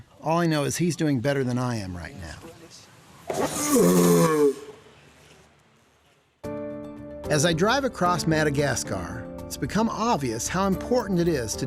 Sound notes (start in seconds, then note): 3.3 grunting loudly